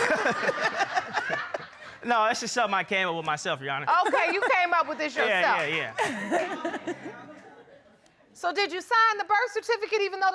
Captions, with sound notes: [all laughing] No, it's just something I came up with myself, Your Honor. -Okay, you came up with this yourself. -Yeah, yeah. [laughter] So, did you sign the birth certificate